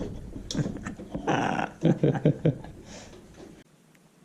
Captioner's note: satisfying laugh